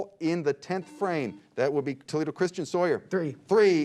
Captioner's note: beep